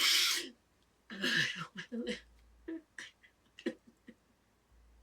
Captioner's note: Ally crying